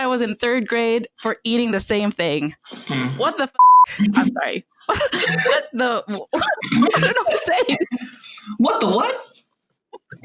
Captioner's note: laughter